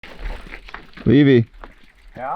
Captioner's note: rocks falling